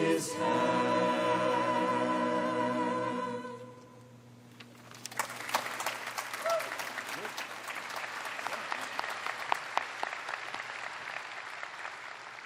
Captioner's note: applause